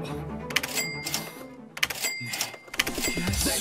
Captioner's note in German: Kassenklingeln mit jedem Drücken; Flotte Musik